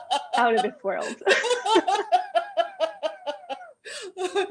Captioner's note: laughter